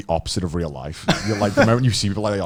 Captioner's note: laughs